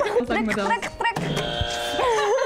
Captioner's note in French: Buzzer